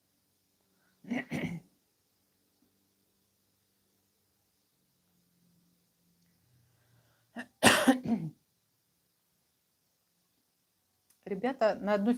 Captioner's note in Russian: кашель; откашливается